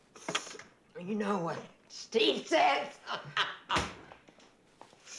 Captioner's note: laughs